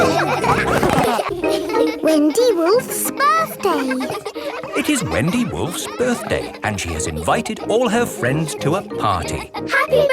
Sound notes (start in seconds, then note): 4.6 kids laughing